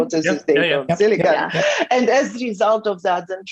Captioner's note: laughs